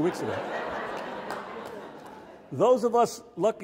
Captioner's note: audience laughs